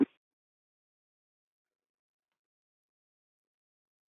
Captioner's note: silence